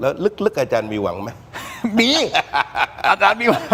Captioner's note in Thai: เสียงหัวเราะ